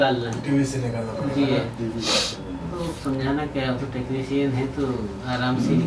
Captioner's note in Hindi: नाक से की जाने वाली आवाज़